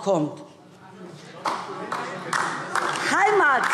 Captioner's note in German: Beifall DIE LINKE